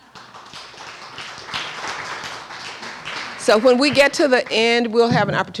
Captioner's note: applause